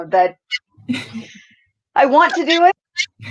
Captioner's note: laughs